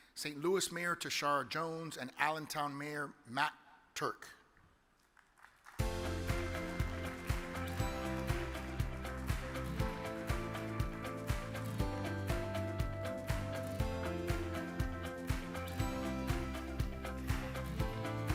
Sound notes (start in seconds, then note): 5.1 audience clapping; 5.1 upbeat music